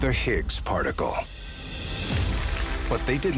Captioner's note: clapping